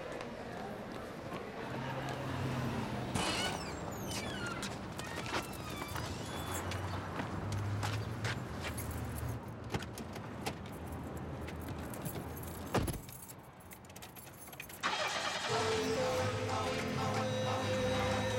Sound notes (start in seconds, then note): 14.8 car engine starting